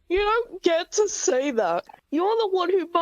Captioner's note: none